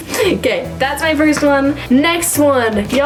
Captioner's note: chuckles